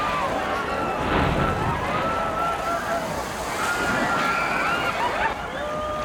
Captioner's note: crowd cheers and screams